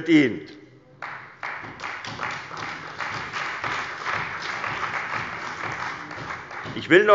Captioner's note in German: Beifall bei der CDU und dem BÜNDNIS 90/DIE GRÜNEN